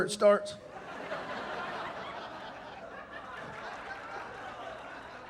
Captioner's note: audience laughing